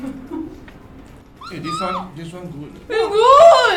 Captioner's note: squealing nosies